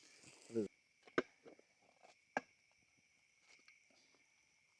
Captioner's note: crunching